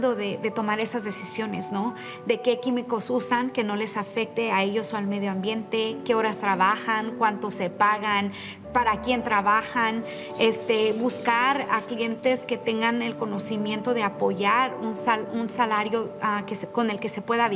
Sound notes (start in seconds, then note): 10.2 continues speaking in Spanish